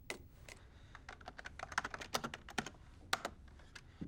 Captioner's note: typing